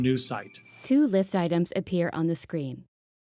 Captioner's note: voiceover